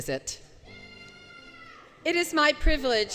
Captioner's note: audience Yelling